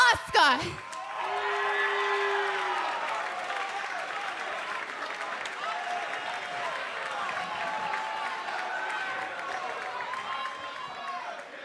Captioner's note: cheers and boos